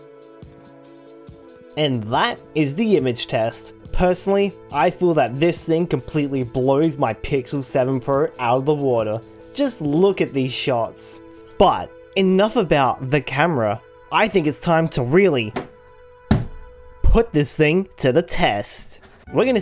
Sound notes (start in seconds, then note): 16.2 thump